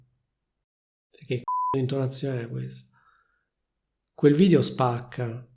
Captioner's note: beep